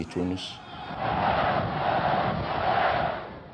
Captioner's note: military crowd